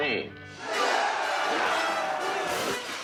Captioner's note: all cheering